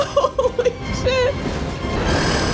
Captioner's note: laughing